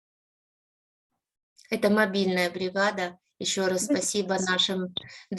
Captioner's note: speaking Ukrainian